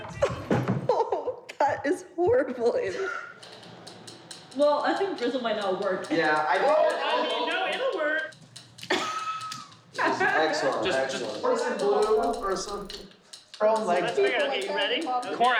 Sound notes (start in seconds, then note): 0.0 gags; 8.8 wheezes